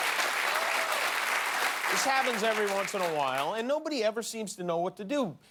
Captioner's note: applause